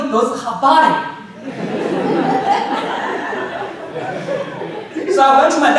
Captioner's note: audience laughing